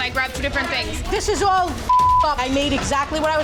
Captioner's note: beep